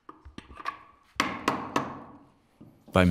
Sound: hammering

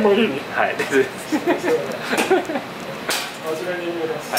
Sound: laughs

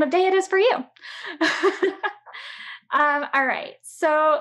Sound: chuckles

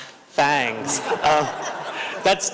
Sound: laughter

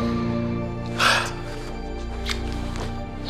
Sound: laughs; sighs

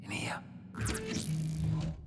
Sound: door opens

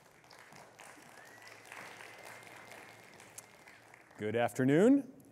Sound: audience applauding

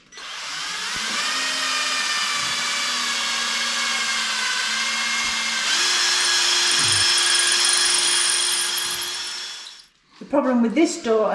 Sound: drilling

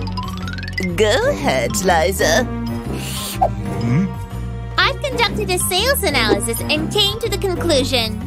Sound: taking a sip

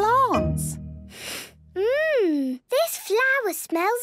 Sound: sniffs

